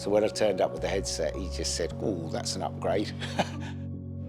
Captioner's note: chuckles